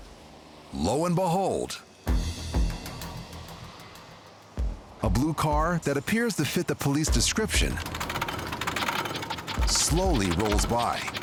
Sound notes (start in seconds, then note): 6.9 metal scraping